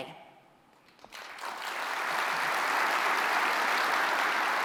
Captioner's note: applause